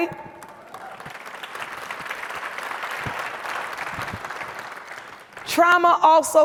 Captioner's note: audience cheers and applauds